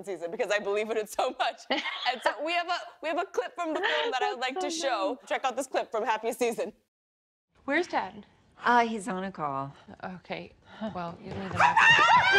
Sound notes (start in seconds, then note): 1.5 laughs